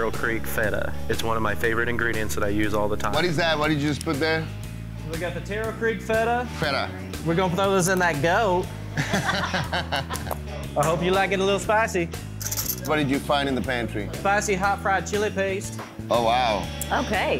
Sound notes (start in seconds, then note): 8.9 judges laughing